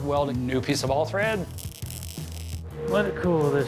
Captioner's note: sizzling